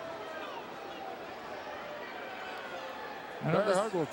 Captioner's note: crowd murmuring